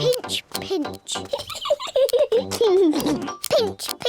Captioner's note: peppa and george giggle